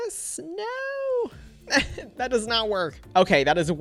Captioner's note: chuckles